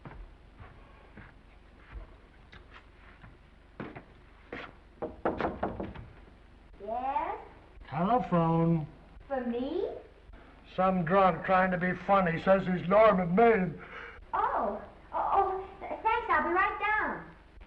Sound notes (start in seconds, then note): 0.0 footsteps approaching; 5.0 knocking; 13.7 yawns